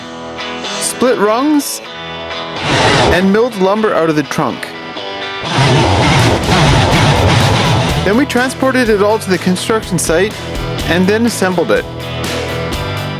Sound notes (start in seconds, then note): 5.4 wood cutting; 12.9 guitar music